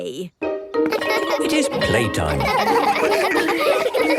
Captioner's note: laughter